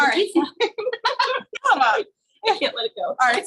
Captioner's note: women laugh